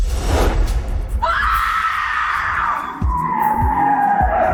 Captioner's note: screaming